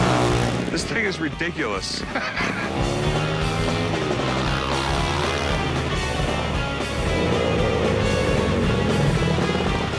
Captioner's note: laughs